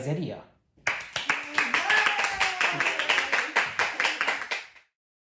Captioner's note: applause because is amazing